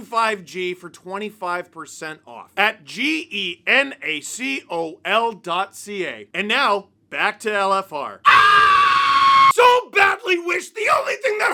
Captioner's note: screaming